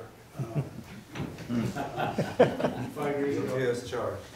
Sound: everyone chuckling

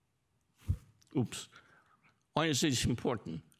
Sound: mic thumps

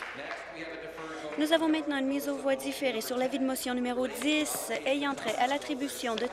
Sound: applause

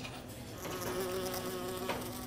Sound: flies buzzing

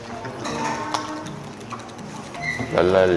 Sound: tap tap tap

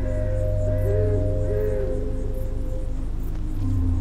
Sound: owl hooting; unsettling music

